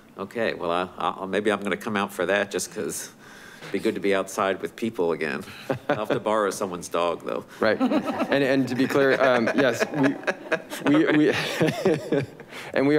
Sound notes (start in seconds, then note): 7.6 board members laughing; 11.0 all laughing